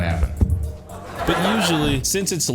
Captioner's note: microphone thump